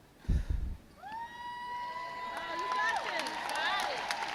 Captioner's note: crowd cheers